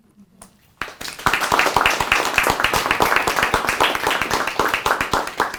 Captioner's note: applause